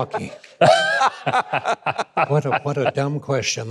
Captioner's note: laughing